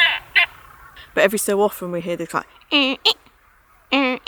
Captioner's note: mimics squeaky call